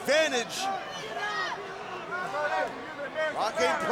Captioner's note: audience chattering